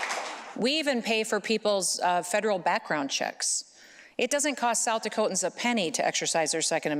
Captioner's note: applause